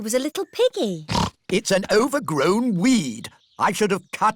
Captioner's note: snorts